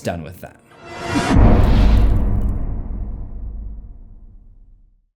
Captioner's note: impact